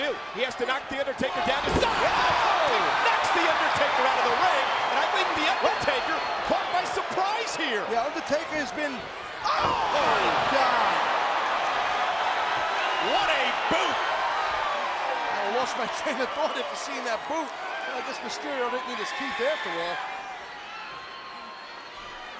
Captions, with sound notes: What's what Mysterio has to do. He has to knock The Undertaker down to size! Whoa! Knocks The Undertaker out of the ring. And I think The Undertaker caught my surprise here! Yeah, Undertaker has been... Oh my god! (crowd cheers) What a boot! I lost my train of thought after seeing that boot. I guess Mysterio didn't need his teeth after all.